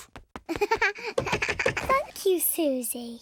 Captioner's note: chuckles